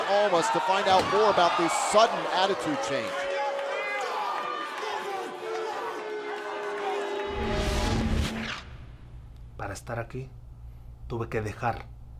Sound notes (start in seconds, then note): 4.5 crowd chatter